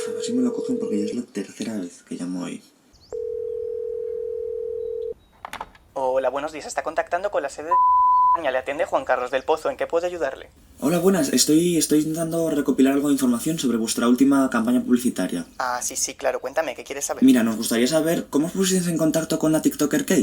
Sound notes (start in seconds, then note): 6.0 phone